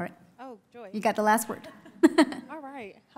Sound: laughs

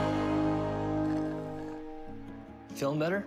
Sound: slurps end of milkshake

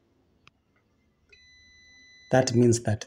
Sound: beep from multimeter

